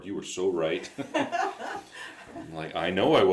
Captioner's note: both laugh